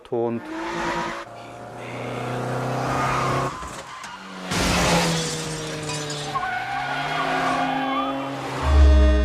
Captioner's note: car chase sounds and crash sounds, tires squeaking